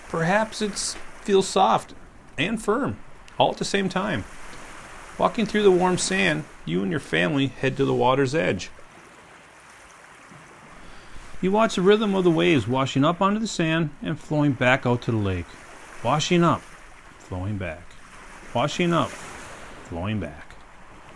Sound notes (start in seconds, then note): 10.9 waves